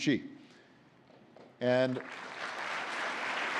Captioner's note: applause